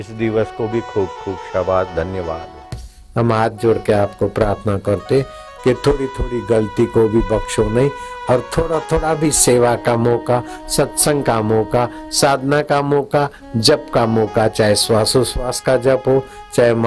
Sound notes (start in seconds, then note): 14.5 chanting